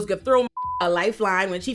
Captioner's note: beep